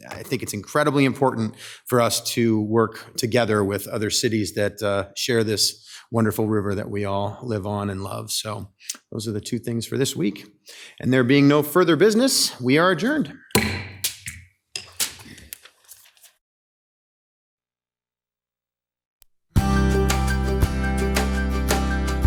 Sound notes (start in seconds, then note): 13.5 gavel banging; 19.6 upbeat music